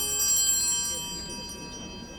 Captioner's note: bell ringing